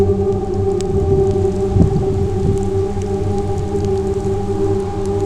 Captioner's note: wind Rustles